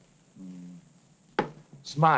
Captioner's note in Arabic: يدندن